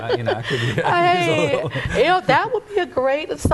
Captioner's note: laughs